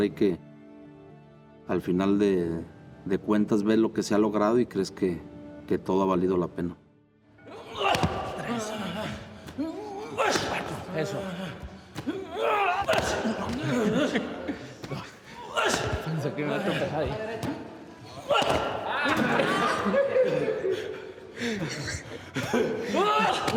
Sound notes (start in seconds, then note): 8.1 gruñe; 12.9 gruñe; 18.9 risas